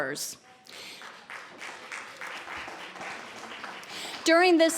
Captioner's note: applauding